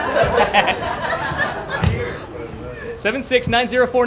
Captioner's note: laughter